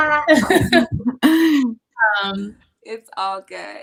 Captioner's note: laughter